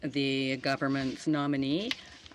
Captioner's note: speaking French